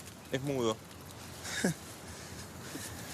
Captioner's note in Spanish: Walter ríe